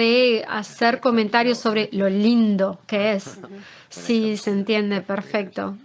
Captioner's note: laughs